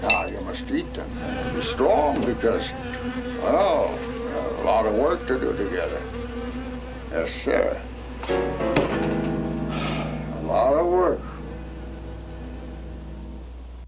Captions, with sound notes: Now you must eat and be strong because, well, a lot of work to do together. Yes sir. (sighs) A lot of work.